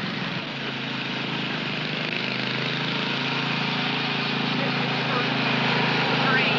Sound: motor humming

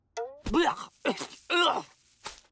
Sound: gagging

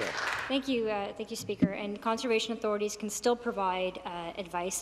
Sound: applause

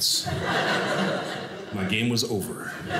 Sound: audience laughing

